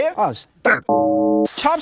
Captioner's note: funeral bell